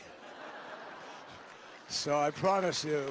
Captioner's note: laughter and applause